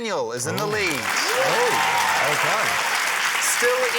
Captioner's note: cheering, applause